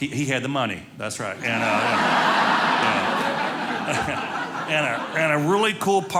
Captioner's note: audience laughing